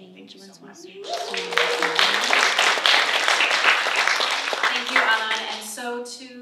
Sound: applause

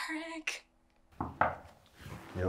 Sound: knock on door

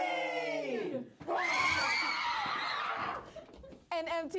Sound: chaotic screaming

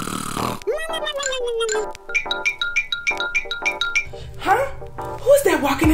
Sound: xylophone plinking; snoring; xylophone plinking

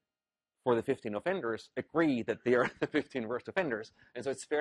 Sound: laugh

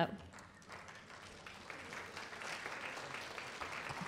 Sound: applause

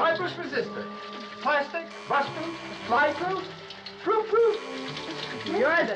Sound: phone Buzzing

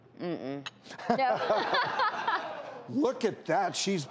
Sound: laughs

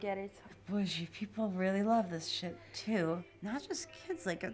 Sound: murmuring

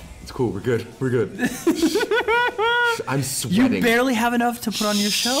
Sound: laugh

